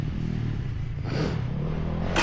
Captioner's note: engine revving